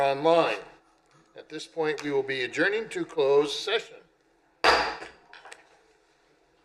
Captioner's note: gavel